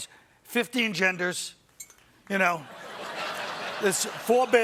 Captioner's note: laughter